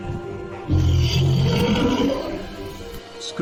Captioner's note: monster Roar